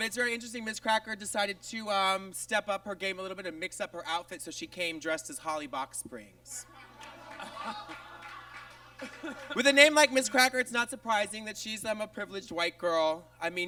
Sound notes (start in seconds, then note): 6.6 audience laughs